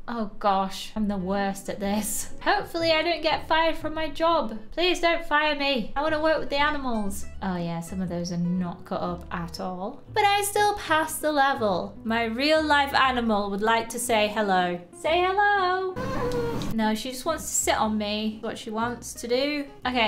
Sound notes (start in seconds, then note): 16.0 cat meows